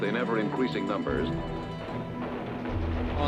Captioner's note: guns shooting